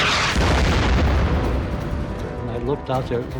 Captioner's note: shell exploding